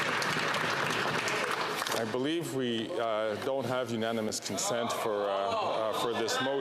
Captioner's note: applause